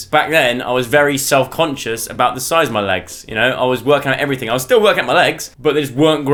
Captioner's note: none